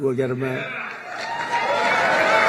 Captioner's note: applause